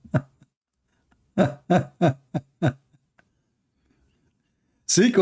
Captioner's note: Ketawa